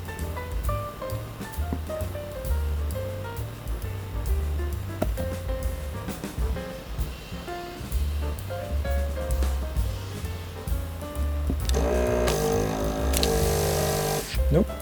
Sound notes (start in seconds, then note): 5.4 motor whirring